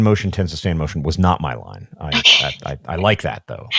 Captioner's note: chuckling